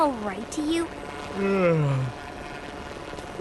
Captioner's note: yawn